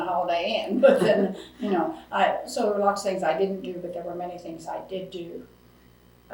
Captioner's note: laughs